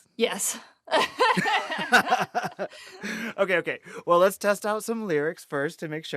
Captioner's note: laughter